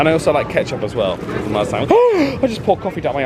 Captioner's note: gasps